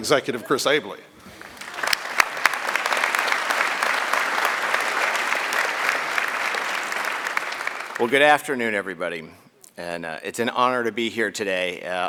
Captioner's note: applause